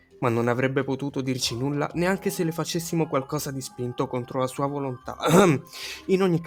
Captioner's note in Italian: ehem